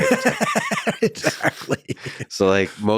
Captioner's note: laughing